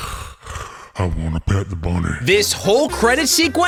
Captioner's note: mouth breathing; mouth breather's voice